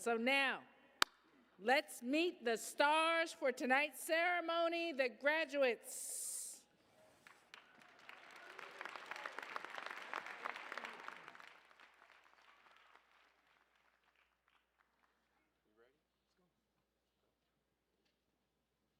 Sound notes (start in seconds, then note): 7.1 applause